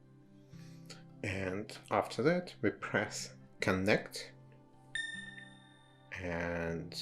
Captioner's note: app makes ding noise